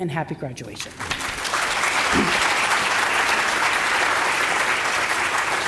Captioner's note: audience applauding